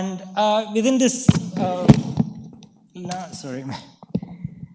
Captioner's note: mic clatters